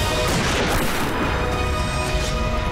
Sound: gunshot

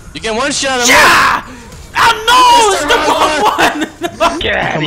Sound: laughs

